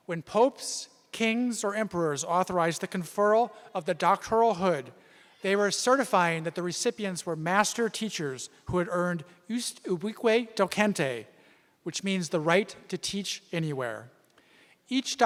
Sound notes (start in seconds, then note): none